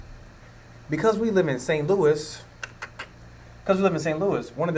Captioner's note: clicks mouth